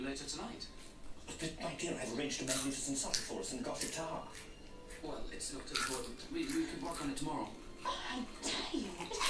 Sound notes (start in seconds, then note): 3.7 loud crunching